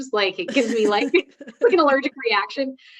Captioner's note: both laughing